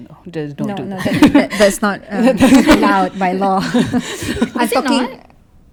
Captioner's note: laugh